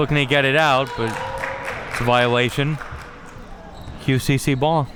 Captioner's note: spectators applauding